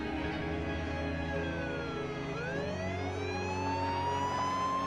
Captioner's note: police siren